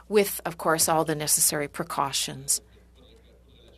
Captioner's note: speaking French